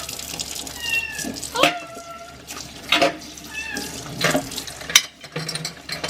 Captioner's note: Bbang keeps meowing